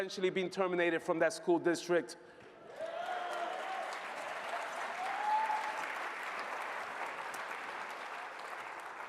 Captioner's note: applause